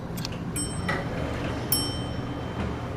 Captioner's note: elevator Chimes